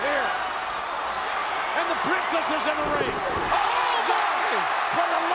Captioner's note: applause